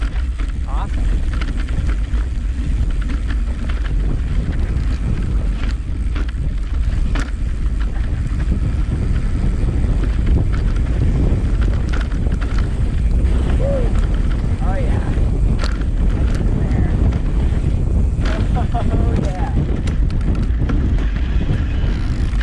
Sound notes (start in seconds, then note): 4.3 wind gushing; 18.3 laughs